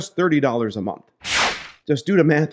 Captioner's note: whooshing sound